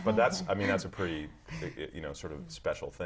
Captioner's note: laugh